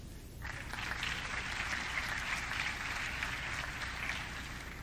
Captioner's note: audience clapping